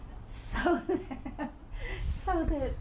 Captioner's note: laughs